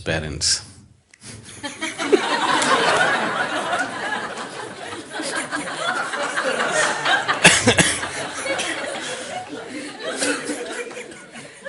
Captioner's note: laughter